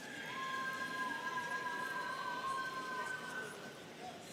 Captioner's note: students cheering